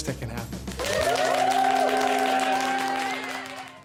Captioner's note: audience cheering